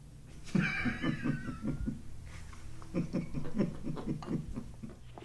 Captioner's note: laughs